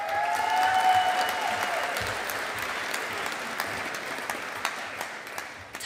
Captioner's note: audience applauding